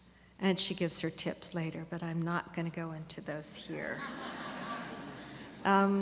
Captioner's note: laughter